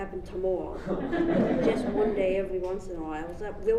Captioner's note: audience laughs